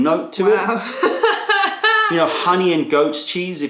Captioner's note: laughter